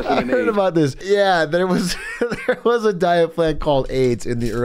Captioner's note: laughs